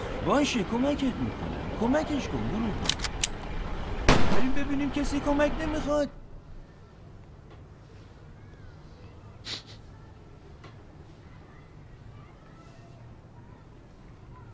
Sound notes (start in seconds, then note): 4.0 gunshot; 9.4 sniffing